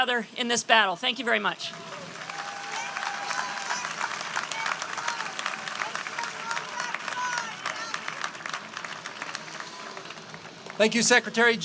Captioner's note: cheers and applause